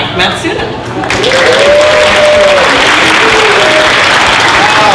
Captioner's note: cheering, applause